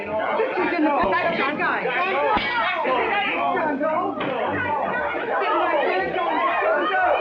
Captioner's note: frantic chattering